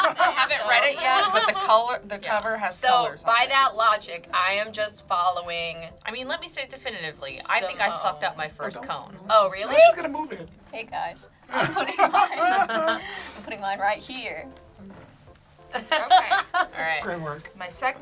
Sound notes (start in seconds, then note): 11.5 group laughs; 15.7 laughs